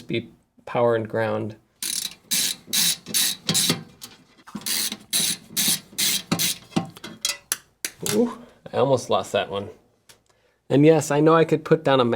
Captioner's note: clumsy screw drop